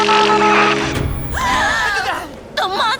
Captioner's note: all gasp